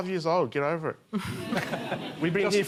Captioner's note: laughter